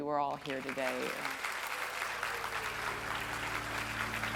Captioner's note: audience applauds